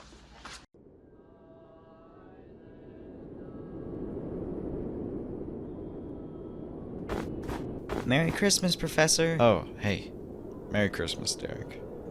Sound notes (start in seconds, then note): 7.9 footsteps crunch in the snow